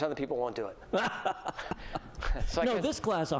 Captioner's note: laughter